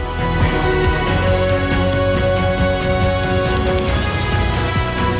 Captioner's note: applause